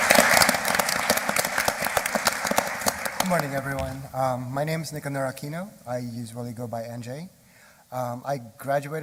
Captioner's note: applause